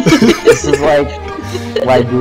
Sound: laughing

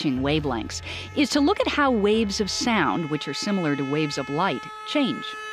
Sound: car horn changing pitch

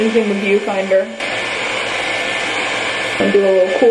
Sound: blow dryer whines

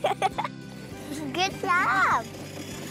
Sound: giggles

